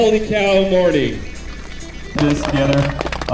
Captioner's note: applause